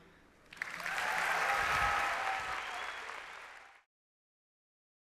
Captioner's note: applause